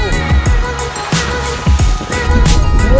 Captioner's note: water splashes